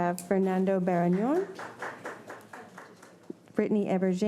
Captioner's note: audience applauding